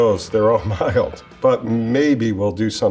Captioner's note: chuckles